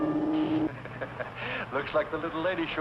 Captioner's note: laughs